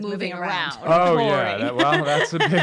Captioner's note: laughs